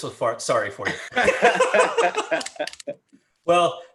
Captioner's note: everyone laughing